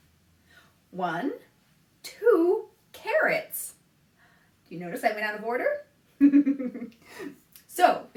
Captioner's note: laughs